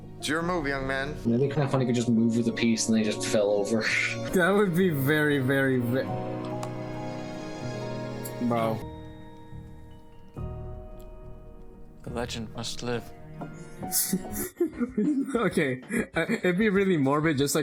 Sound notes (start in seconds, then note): 13.9 chuckles; 13.9 chuckling